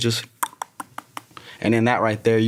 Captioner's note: imitates rock falling